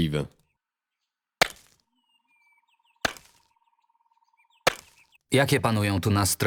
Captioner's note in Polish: odgłos kilofa uderzającego w samorodek złota